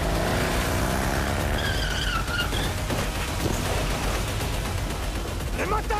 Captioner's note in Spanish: Disparos